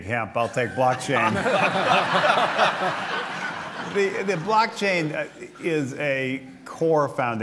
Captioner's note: laughter